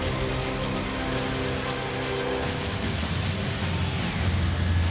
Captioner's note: dramatic music continues; engine puttering